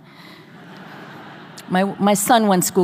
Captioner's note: audience laughing